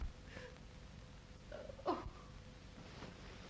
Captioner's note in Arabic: تبكي